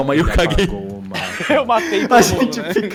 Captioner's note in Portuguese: Risadas